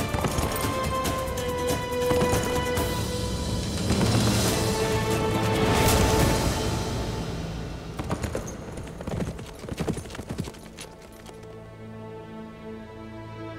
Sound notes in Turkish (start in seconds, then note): 7.8 At nalı sesi